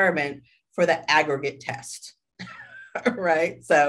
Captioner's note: chuckles